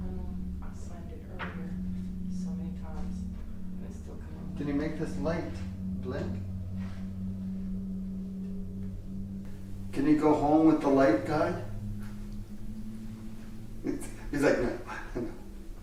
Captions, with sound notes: - Um, I slammed it earlier so many times. And it still... - Can you make this light blink? Can you go home with the light guy? [chuckles] It's... he's like, no, no, no.